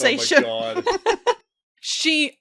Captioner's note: laughter